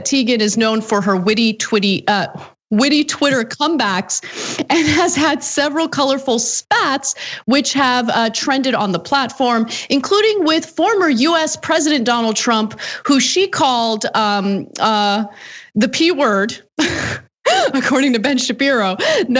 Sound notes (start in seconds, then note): 15.6 laugh